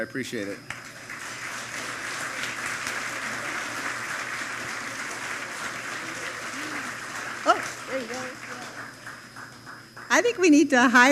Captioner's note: applause